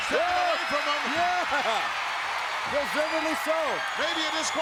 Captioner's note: crowd cheers